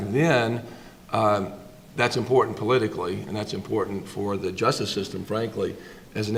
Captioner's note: none